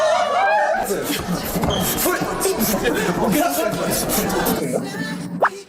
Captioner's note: beatboxing